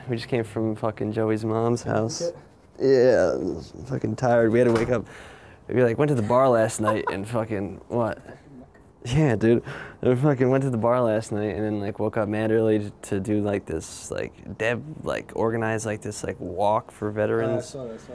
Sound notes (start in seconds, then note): 6.2 laughs